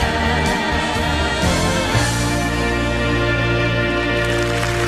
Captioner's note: applause